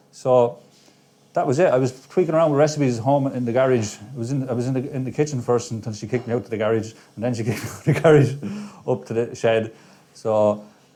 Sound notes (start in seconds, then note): 7.4 laughs